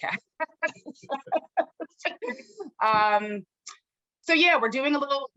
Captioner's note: laughter